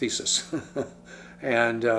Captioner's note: chuckles